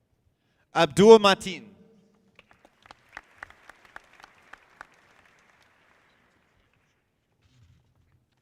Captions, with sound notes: Abdul Matin. (audience clapping)